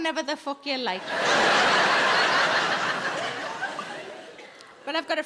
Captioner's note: audience laughing